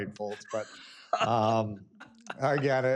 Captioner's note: laughs